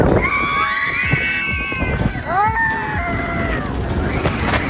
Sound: everyone screaming

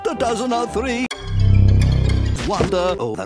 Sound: creepy Crawly Sound

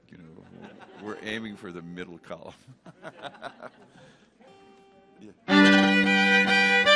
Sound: chuckles; upbeat fiddle music

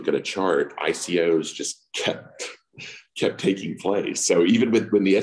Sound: laughs

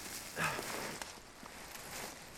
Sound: none

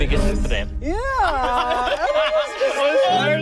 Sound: laughing

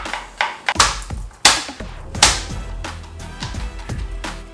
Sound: smacking

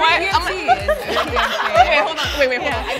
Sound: laughter

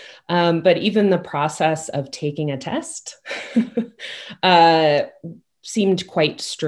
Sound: chuckles

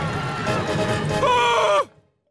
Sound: screaming

